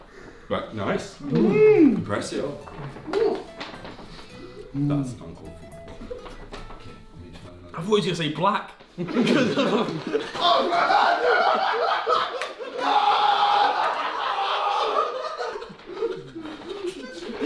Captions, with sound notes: Nice (humming) Impressive. That's uncalled for. - I thought he was gonna say black (laughing)